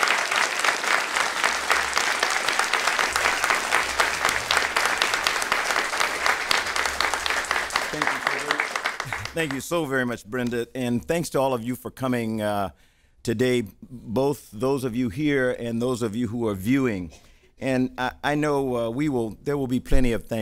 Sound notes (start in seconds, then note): 4.6 applause